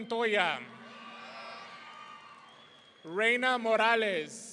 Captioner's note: audience cheering